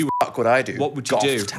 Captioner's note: beep